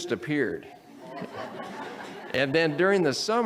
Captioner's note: audience laughs